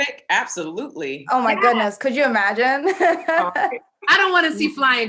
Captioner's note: laughing